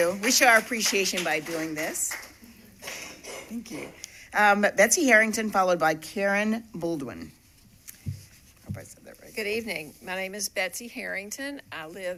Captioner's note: applause